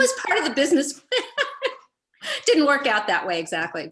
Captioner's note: laughs